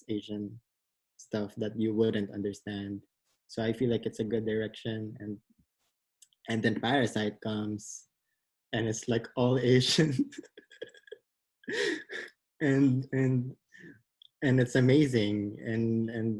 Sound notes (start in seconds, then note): 11.7 laughs